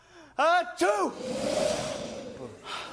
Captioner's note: wind gust